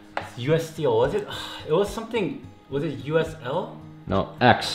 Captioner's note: sighs